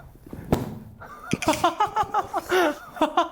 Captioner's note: holding in laughter